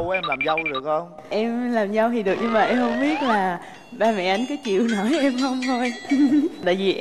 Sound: laugh

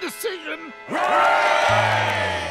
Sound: cheering

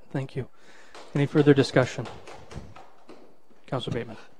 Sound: participant clapping

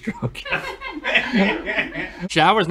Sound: laughter

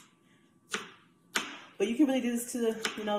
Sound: knife chopping

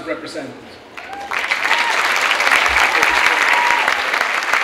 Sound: clapping

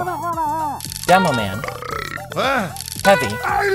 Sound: belches

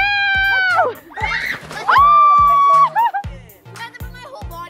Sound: screams

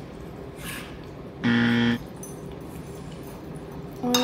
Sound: timer buzzing

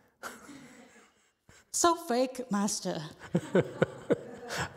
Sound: laughs; laughs

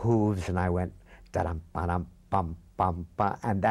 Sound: humming rhythm

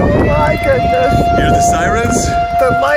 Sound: siren wailing

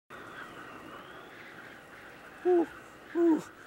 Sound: wind howling

